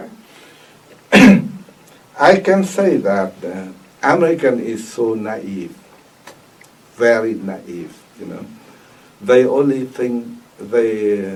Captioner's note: coughs